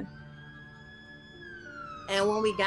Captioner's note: siren wailing